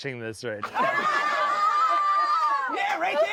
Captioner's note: everyone laughs